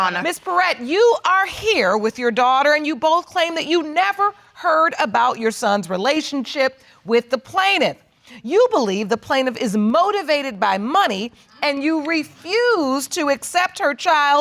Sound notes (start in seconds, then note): none